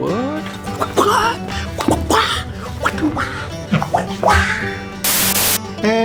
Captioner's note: making random fighting noises